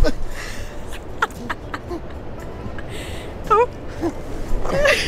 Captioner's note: laughing